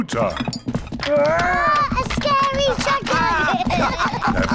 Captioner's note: growls; both laugh